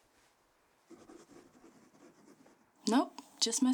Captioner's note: pen scratching